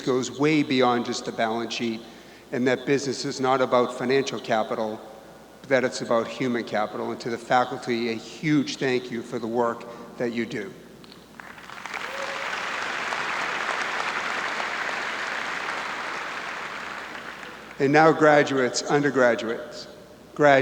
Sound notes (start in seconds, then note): 11.3 audience clapping